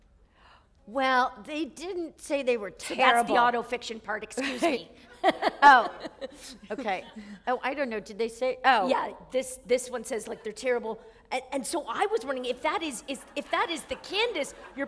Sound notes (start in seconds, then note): 6.0 chuckle